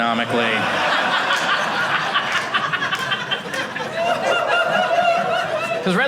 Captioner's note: audience laughing